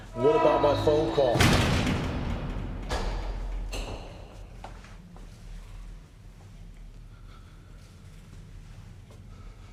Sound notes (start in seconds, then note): 0.4 metal door clanging